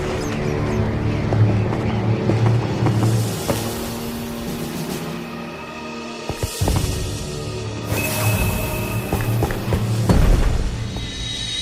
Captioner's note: bat squeaks